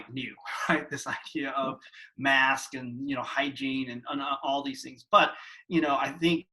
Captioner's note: laugh